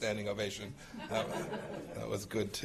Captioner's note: laughter